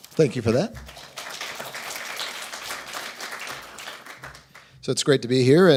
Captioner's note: applause